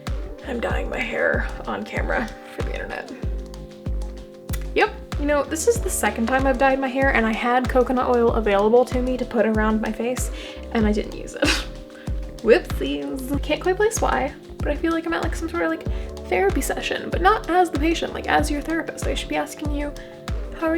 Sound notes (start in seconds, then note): 11.6 laugh